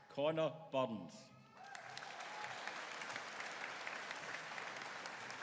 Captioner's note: audience cheering